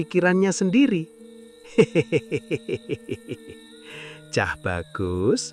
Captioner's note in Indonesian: tertawa